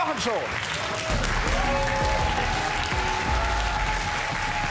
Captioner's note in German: Jubel und Applaus